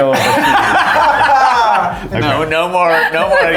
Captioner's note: all laughing